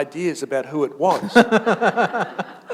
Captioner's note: chuckle